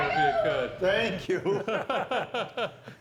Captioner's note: laughing